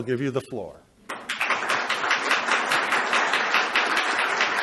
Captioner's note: applauding